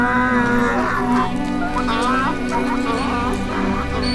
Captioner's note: donkeys bray